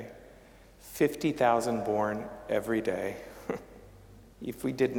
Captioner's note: chuckling